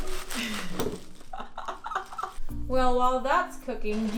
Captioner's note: laughing